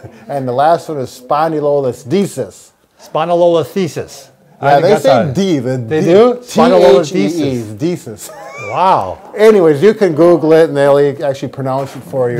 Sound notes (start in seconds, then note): 0.0 chuckling; 8.2 laughing